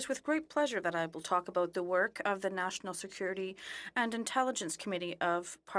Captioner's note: speaking French